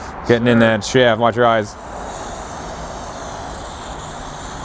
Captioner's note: Gumout sprays